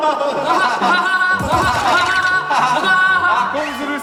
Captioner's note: hahahaha